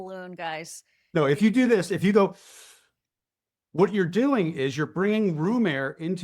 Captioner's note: exhales